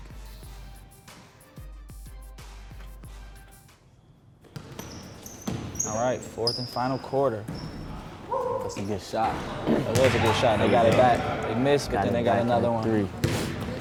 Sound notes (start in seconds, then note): 0.2 low tense music; 4.9 sneakers squeaking